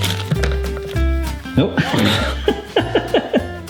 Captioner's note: giggles